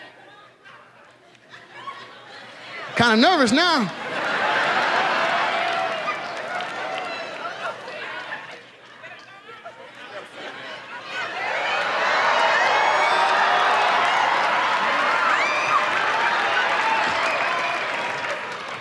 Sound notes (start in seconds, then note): 2.8 audience laughs